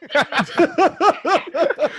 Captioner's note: laughter